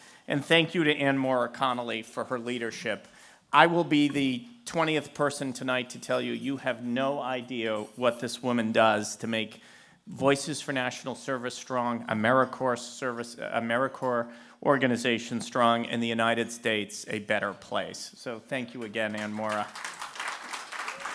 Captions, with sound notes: and thank you to AnnMaura Connolly for her leadership. I will be the 20th person tonight to tell you, you have no idea what this woman does to make Voices for National Service strong, AmeriCorps service, AmeriCorps organizations strong, and the United States, a better place. So, thank you again, AnnMaura. [APPLAUSE]